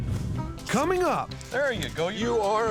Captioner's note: none